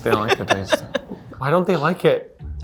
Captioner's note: laughs